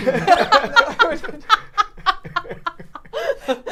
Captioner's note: all laughing